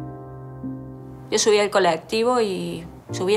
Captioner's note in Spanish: Voz de mujer